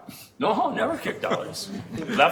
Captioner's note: chuckling